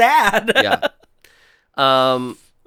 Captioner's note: laughs